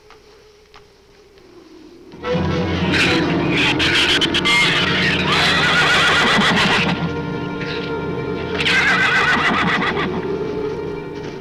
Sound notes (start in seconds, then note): 2.0 dark orchestral music; 2.0 shrew chatter; 5.3 horse neighs